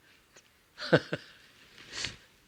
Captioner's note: laughs